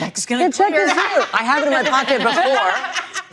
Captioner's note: all laughing